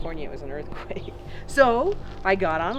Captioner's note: laughs